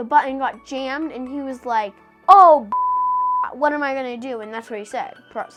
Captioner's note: beep